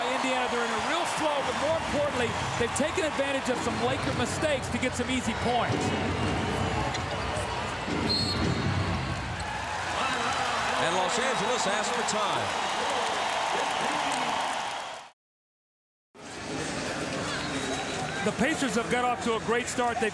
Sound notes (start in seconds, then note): 8.0 whistle blows